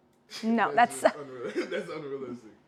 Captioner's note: laughs